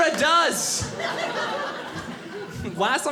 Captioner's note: audience laughing